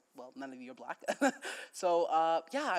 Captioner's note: chuckles